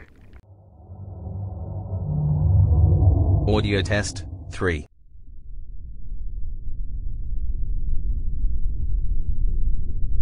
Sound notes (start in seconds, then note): 3.1 eerie ethereal transitional SFX